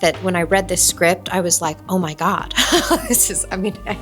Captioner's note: laughs